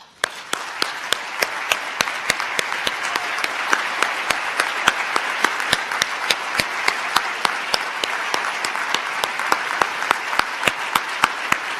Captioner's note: applause